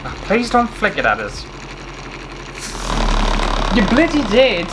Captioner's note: loud Motor Sounds